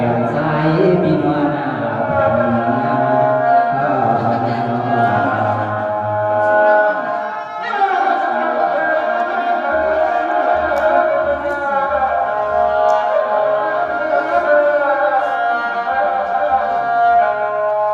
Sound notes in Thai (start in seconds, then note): 7.9 ปรบมือ